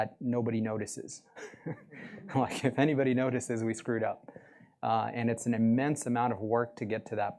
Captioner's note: chuckle